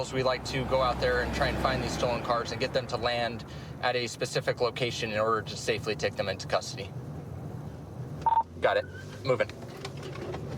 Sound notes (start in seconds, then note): 8.2 radio beeps